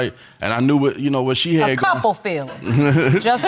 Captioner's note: laughing